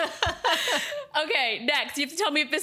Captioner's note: laughter